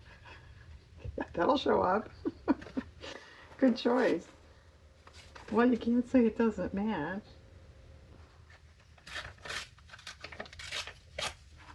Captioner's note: laughs